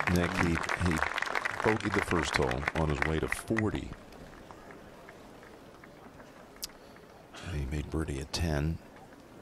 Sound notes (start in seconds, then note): 4.3 applause